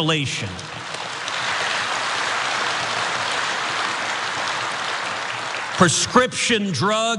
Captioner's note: applause